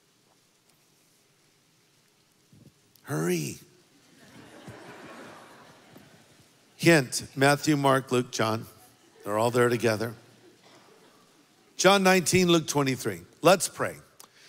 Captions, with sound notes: Hurry. (congregation laughs) Hint, Matthew, Mark, Luke, John. They're all there together. John 19, Luke 23, let's pray.